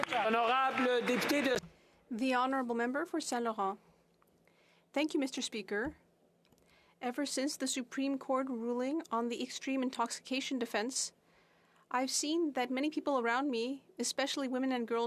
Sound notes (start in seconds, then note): 3.7 speaking French